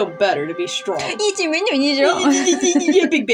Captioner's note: mocking; laugh; mocking Noises